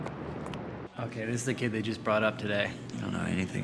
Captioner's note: baseball game plays on TV